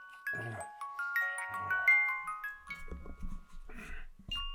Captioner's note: Jacob grunting